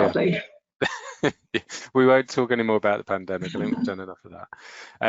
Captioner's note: laughs